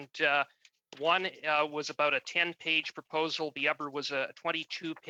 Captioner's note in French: voix de l'interprète